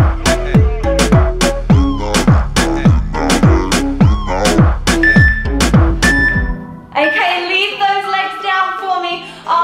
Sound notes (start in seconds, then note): 5.0 workout timer beeping